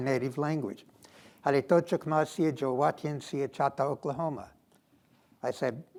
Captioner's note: speaking foreign language